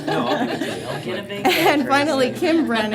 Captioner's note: laughter